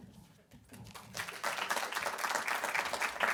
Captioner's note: applause